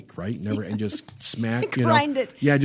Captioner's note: laughs